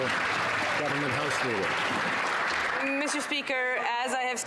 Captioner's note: some Applause